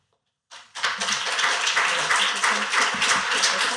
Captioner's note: applause